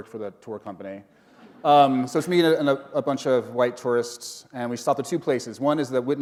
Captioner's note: chuckle